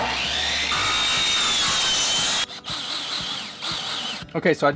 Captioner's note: screw noise